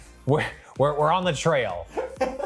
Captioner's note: laughs